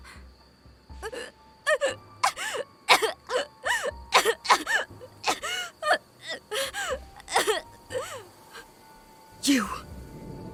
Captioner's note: coughing blood